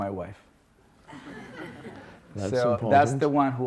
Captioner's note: audience laughs